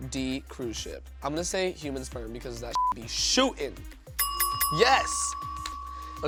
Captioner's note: beep